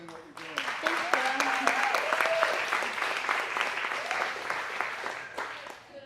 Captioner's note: audience applauding